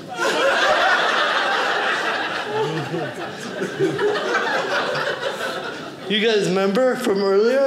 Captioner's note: audience laughing